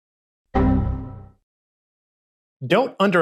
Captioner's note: blong!